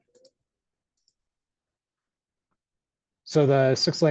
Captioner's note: mouse clicks